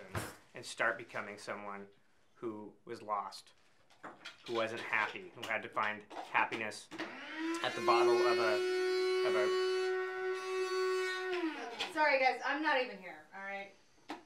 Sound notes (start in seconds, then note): 7.0 interrupted by blender noise